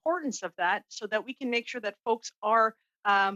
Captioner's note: speaking French